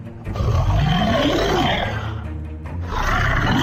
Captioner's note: monster Roar